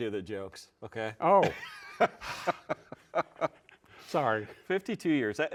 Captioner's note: laugh